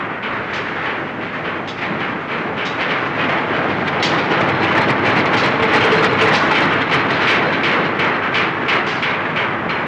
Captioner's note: noise of a steam engine